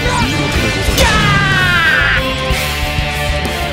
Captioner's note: death scream